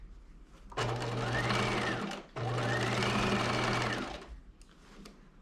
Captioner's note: sewing machine whirring